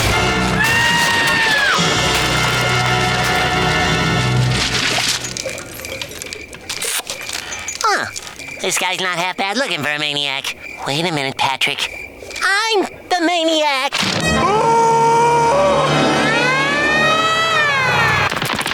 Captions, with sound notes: [screaming] Huh, this guy's not half-bad-looking for a maniac. Wait a minute, Patrick, I'm the maniac! [screaming] [sirens blaring]